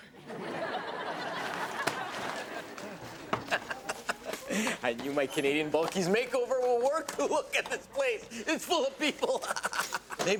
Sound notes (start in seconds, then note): 0.1 audience laughing; 3.5 laughing